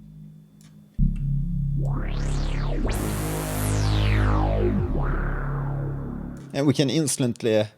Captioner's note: resonating bass sound